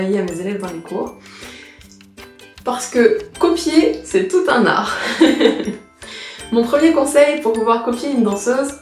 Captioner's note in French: rire